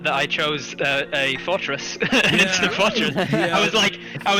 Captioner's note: haha